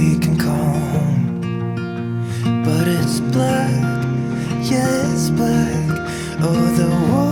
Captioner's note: laughs